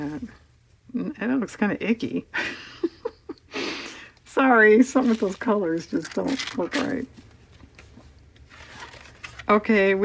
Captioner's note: laughs